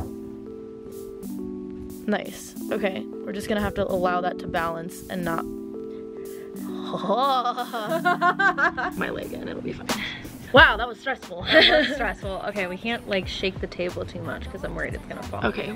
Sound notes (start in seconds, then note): 0.6 soft music plays; 6.7 laughs